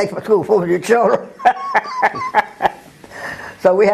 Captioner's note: laugh